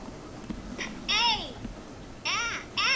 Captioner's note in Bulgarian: звукови сигнали; Електронен глас